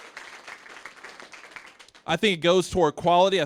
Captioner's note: applause